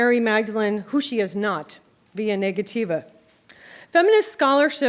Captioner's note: non-english speech